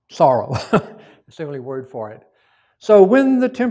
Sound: chuckles

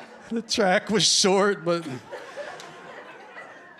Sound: laughter

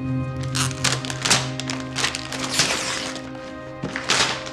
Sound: gift wrap tears

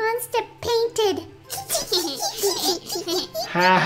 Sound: giggle

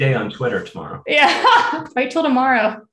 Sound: laughs

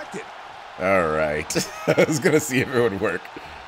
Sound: laugh

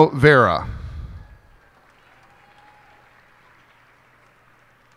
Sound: cheers and applause

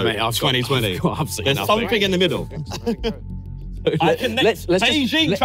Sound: laughs

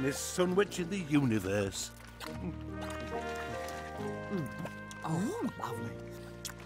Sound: Pootle munches; Oopsy munches

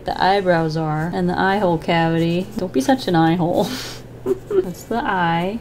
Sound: chuckles

